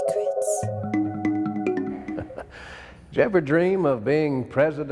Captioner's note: intriguing music; lady whispering "secrets"; chuckling